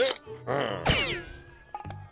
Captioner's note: chuckles; affirmative grunt